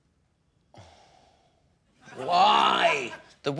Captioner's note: sighs